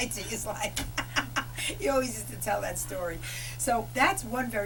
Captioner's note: laughter